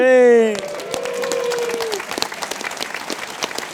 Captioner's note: cheering